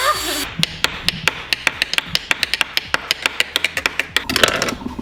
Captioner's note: tapping